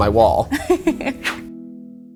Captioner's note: laughs